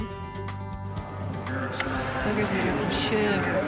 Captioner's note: smooch